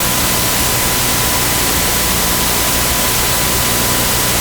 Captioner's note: loud staticky buzz